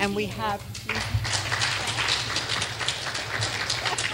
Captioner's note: clapping